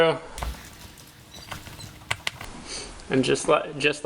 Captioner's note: metal scraping